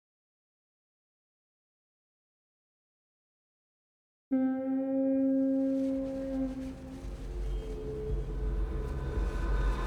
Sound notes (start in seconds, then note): 4.3 ship's horn blows in distance